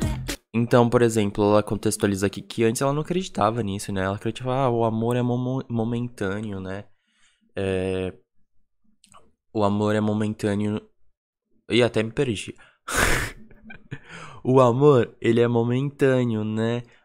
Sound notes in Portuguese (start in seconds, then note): 12.9 risos